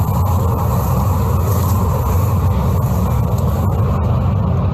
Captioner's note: plants rustling